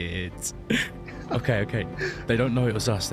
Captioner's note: laughs